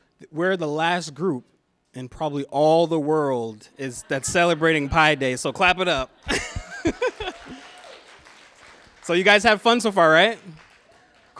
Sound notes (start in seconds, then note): 3.9 laughter; 5.9 laughs; 6.3 applause